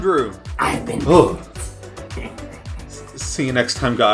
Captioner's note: laughs